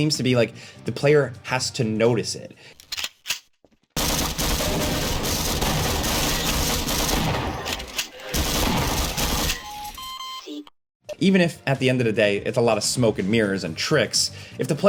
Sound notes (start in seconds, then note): 2.8 gun clicks; 4.0 guns firing; 7.6 gun clicks; 8.2 gun firing; 9.2 game beeping